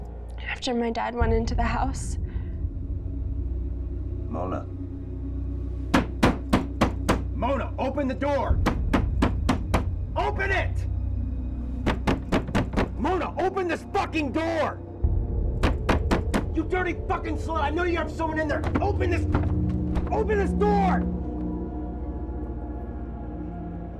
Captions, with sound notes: - After my dad went into the house... - Mona. (hand banging) Mona, open the door! (hand banging) Open it! (hand banging) Mona, open this fucking door. (hand banging) You dirty fucking slut, I know you have someone in there. Open this door! (suspenseful music)